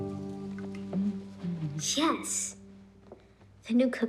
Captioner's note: Lidia humming